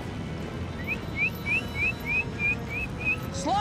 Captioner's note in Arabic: صافرة